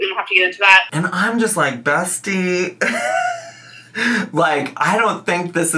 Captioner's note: laughs